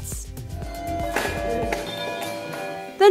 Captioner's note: hand bells